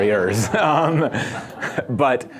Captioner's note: laughter